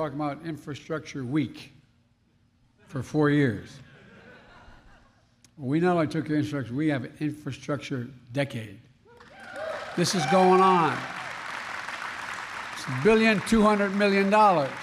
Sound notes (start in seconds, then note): 3.9 laughter; 9.2 applause